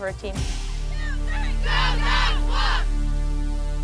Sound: cheering

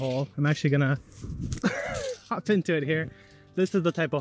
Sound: chuckles

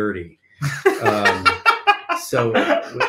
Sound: laughing

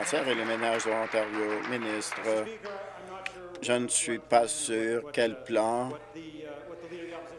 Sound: applause

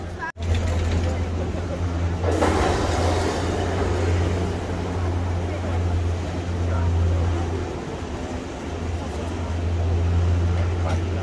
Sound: cable car sound

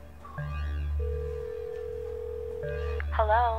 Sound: dial tone buzzing

